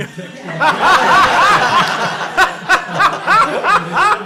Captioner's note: laughter